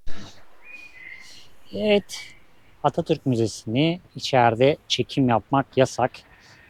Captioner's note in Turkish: homurdanır